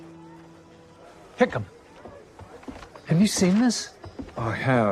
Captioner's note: none